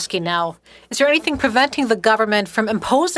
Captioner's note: speaking French